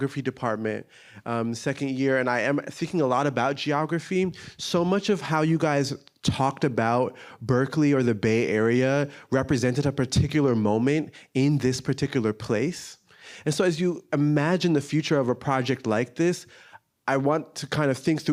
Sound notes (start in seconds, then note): none